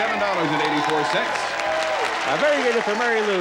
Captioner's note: applause